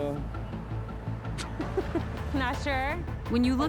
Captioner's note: laughs